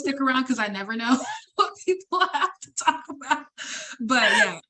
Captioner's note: laughs